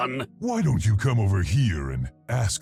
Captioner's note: voiceover